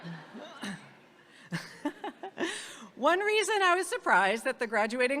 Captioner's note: laughs